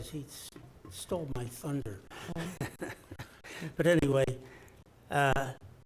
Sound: laughs

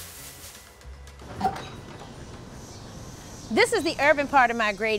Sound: wooden fence creaks

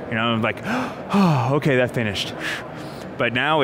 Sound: sighs

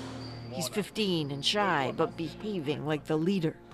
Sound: speaking foreign language

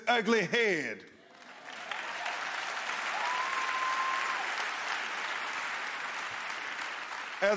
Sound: cheers, applause

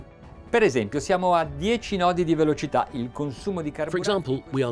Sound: speaking in Italian

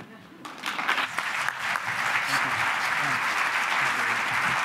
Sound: audience applauds

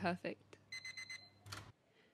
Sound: microwave beeps, door swings open

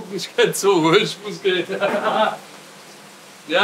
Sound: laughs

